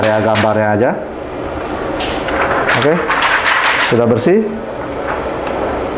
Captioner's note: PET film sound